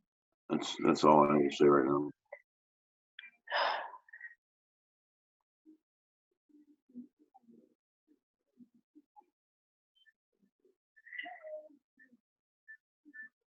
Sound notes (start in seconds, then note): 3.5 sighs